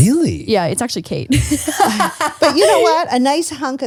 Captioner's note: laughs